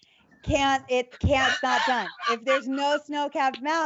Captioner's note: laughs